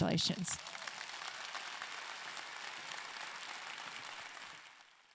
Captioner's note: audience clapping